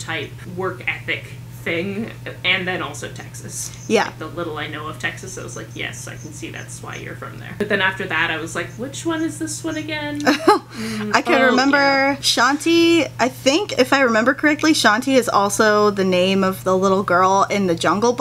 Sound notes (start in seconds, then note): 10.2 laugh